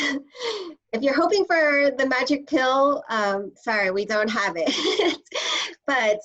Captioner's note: laughter